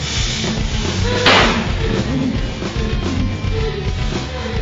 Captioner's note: gun firing